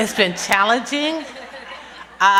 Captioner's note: laughter